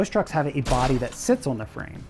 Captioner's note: metal thuds